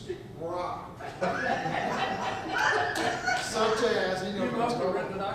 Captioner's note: audience laughs